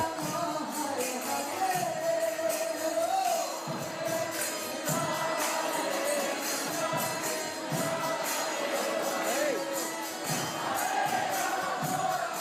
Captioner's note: chanting